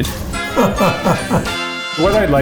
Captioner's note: laughing